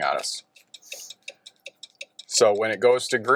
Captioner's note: car signaling